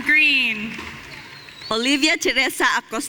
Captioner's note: audience cheering